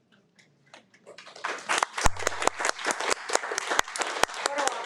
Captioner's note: audience applauding